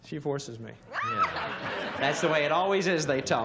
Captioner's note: laughter